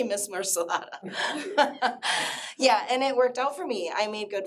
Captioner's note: laughs